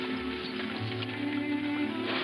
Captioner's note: man whistles